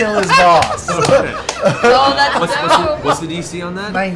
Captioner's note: laughter